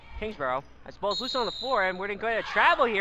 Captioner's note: whistle blows